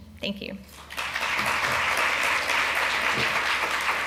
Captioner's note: applause